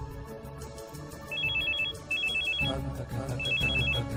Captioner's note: phone ringing